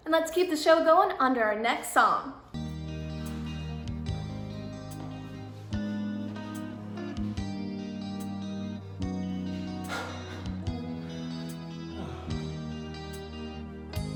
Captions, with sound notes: And let's keep the show onto our next song. (romantic instrumental music) - (chuckles) Ah.